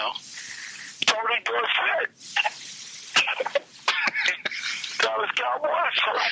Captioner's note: Marc laughs